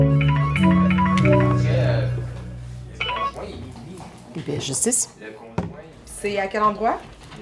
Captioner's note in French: sonnerie de téléphone